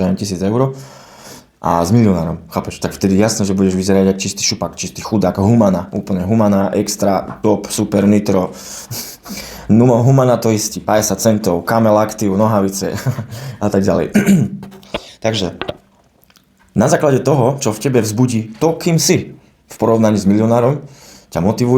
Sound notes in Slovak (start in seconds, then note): 0.8 smrkanie; 13.1 smiech; 14.1 odkašľanie